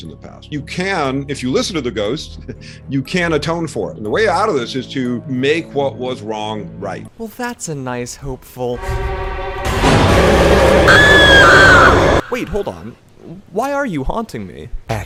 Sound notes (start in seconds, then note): 8.7 dramatic music; 9.1 yelling